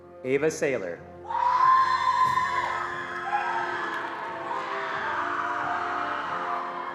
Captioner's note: attendees cheering and applauding